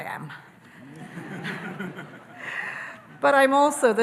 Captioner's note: audience laughing